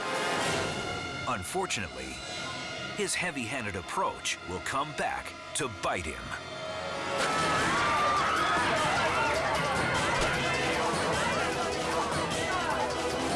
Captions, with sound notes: (dramatic music intensifies) Unfortunately, his heavy handed approach will come back to bite him. (water splashing) (spectators screaming) (rod thumps)